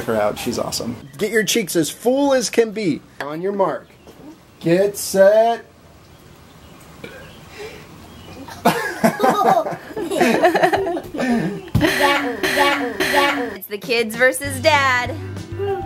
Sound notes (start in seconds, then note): 6.8 belch; 8.2 laughing